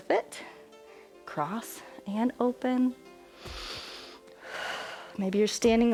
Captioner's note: inhales and exhales